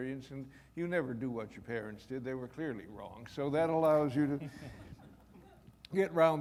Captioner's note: laughter